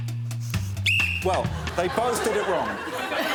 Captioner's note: blows whistle